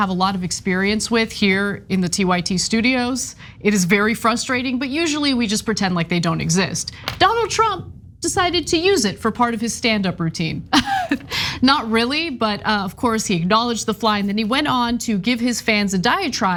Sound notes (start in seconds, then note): 10.8 laugh